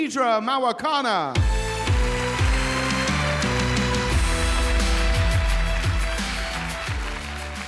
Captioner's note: upbeat music; audience applauding